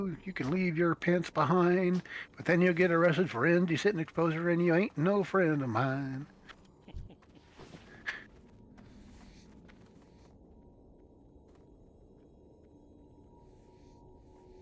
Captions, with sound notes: You can leave your pants behind, but then you'll get arrested for end. You sit in the exposure and you ain't no friend of mine. (laughing)